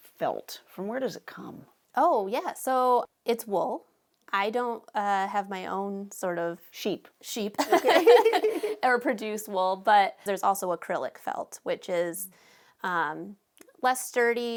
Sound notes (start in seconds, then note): 7.6 both laughing